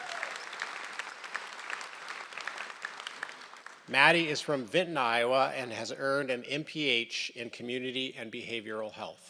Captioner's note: applause